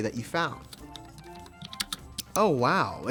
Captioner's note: keyboard clicking